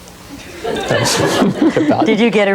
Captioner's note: audience laughs